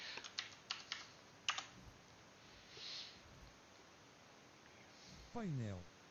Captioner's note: pressing keyboard keys and keys making clicking sounds